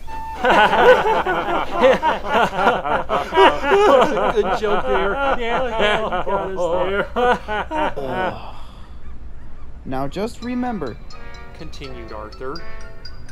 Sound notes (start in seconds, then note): 0.4 laughter; 7.9 annoyed sigh